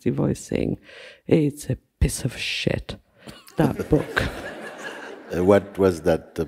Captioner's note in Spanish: risas